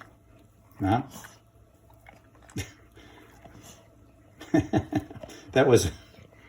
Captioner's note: chuckles